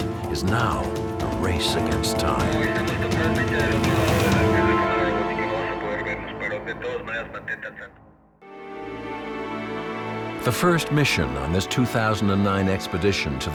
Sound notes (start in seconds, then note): 2.9 dramatic music; 2.9 radio chattering; 8.7 dramatic music